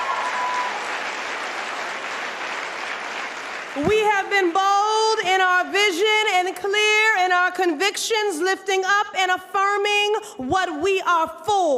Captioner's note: applause